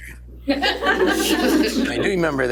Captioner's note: laughter